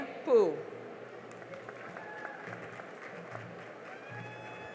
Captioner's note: cheering and applause